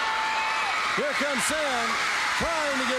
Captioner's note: crowd cheering